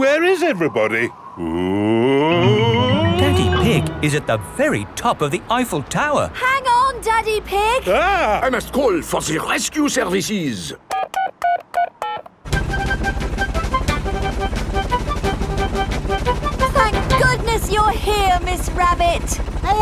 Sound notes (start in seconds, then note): 10.8 dialing